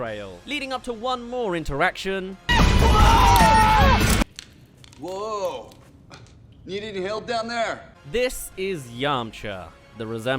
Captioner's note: crash